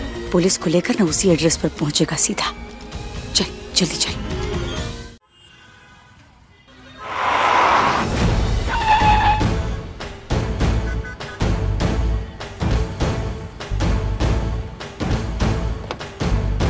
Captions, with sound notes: He will arrive at the given address directly with the police. Come on, let's quickly go. [car brakes screeching] [dramatic music playing]